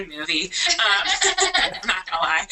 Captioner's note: laughter